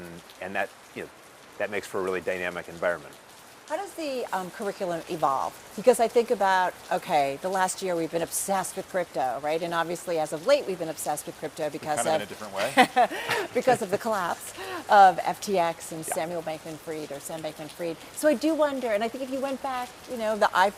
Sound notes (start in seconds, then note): 11.8 laugh